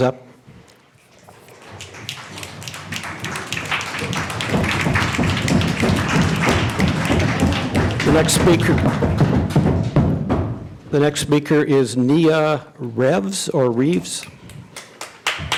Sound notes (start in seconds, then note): 2.0 applause; 2.1 crowd stomping their feet